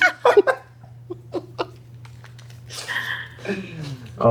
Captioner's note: laughter